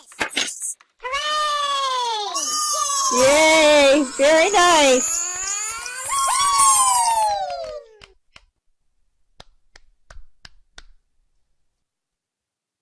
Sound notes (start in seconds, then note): 5.3 cheering; 8.4 clapping